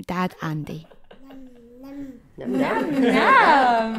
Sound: baby sounds

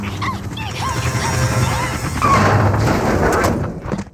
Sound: screaming and fighting

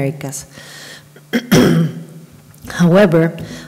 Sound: clears her throat

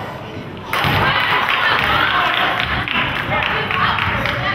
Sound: crowd claps

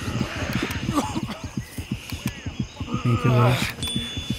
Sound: gunfire

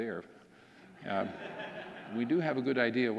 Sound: audience laughing

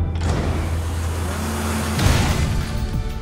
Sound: missiles firing

